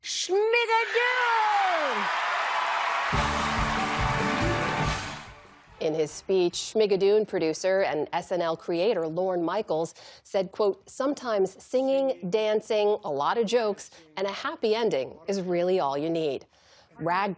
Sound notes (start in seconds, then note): 2.8 cheering